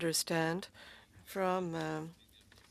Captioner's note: speaking French